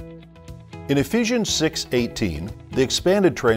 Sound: gentle music; voiceover

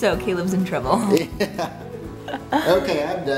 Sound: laughs

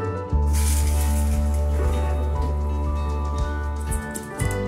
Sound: paper rustles

